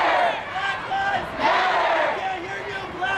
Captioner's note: crowd